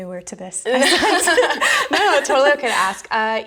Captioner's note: both laughing